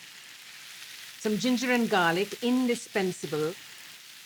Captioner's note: sizzling